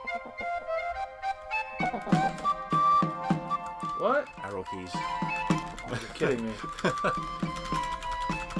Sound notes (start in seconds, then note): 5.6 NinjaFish laughs